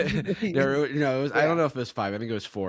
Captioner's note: both laughing